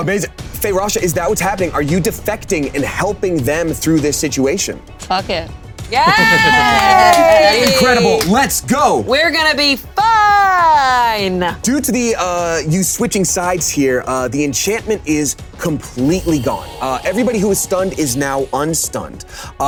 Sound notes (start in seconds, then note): 5.9 players cheering